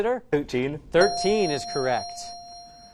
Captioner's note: correct answer chime